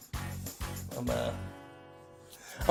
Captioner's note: quietly